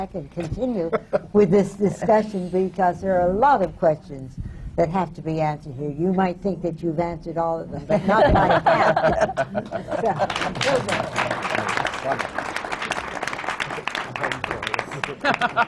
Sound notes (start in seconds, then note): 11.1 laughter from the panel